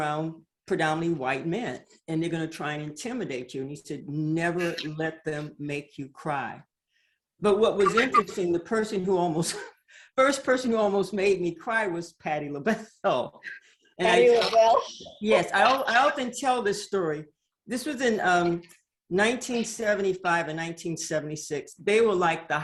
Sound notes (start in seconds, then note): 7.8 chuckles; 14.2 laughs